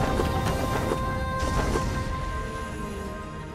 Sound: wings flapping

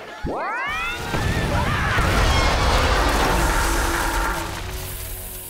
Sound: screaming

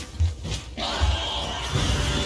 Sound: screams

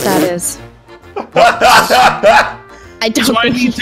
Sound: laughing

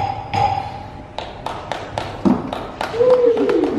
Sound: single person claps

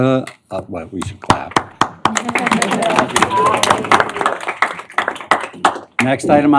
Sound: applause

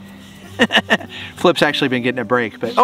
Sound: Rocky laughs

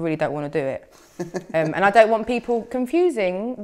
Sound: laughing

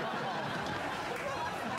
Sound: laughter

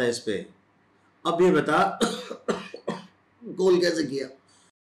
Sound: cough

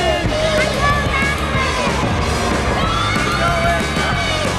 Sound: people clamoring

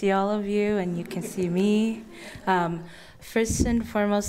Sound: audience chuckles

